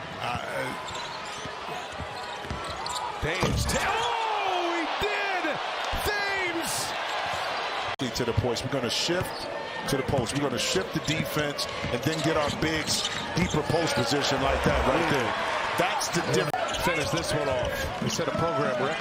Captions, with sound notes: MARA! THAMES. OH! HE DID! [ CHEERS AND APPLAUSE ] [ CROWD NOISE ] DUSTY MAY, HE WILL SHIFT TO THE POST, SHIFT THE DEFENSE, AND GET THE BIGS, DEEPER POST POSITION LIKE THAT. >> THAT'S THE DIFFERENCE, YOU CAN GET PAINT POINTS IN A NUMBER MUCH WAYS AND UTILIZE YOUR SIZE, YOU DON'T WANT TO LOOKING FOR THETH VICTORY -- THE 15TH VICTORY, SETTING A